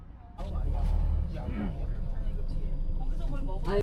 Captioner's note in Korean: 목을 가다듬음